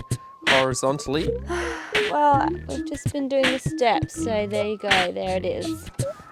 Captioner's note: siiiggghhhh